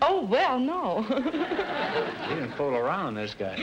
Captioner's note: audience laughter